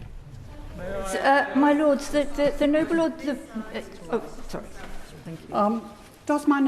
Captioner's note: members chatter